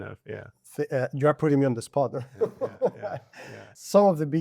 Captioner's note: laughs